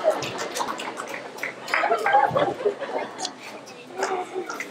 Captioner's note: laughter; applause